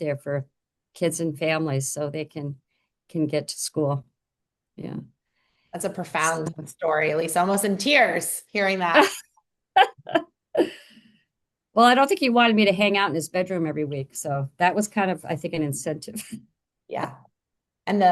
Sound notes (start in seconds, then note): 9.8 laughs